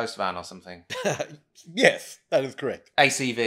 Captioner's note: chuckles